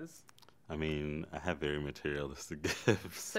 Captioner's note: chuckles